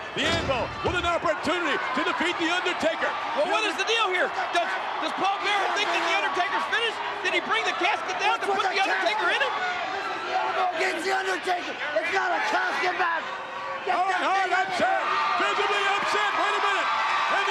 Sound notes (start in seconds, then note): 14.0 Owen continues shouting